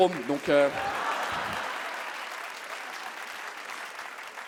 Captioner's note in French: le public s'exclame et applaudit